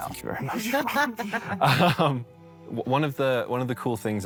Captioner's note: all laugh